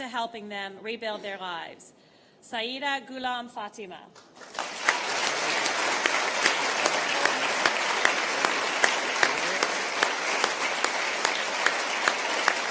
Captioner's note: applause